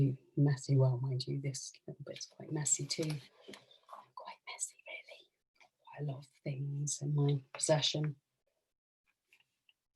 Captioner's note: whispers